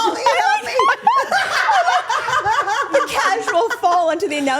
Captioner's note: group laughing